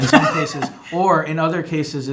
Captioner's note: laughing